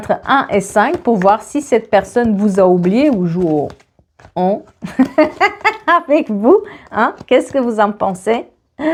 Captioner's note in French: rires